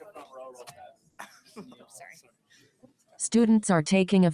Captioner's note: people chatter indistinctly